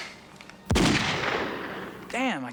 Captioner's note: birds squawking; gunshot blasting